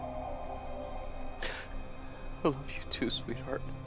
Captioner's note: Nathan sniffles